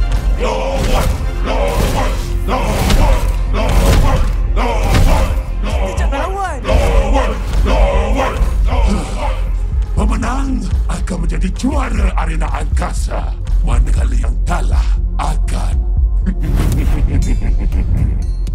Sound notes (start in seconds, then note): 6.7 guard robots keep chanting; 16.2 laughs evilly